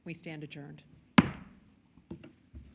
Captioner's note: bang